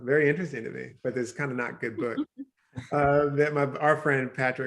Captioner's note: chuckles